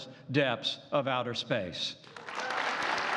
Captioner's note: applause